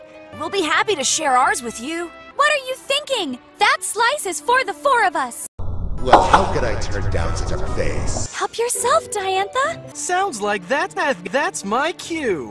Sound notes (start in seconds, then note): 5.6 extremely slowed down sound; 5.6 slowed down sound continues